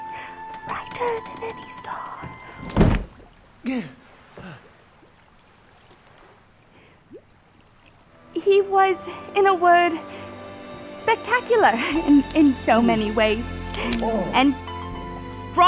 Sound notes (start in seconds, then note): 2.3 thud, soft gasp